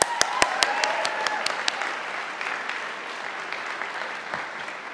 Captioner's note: audience applauding